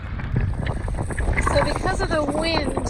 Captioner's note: flags flapping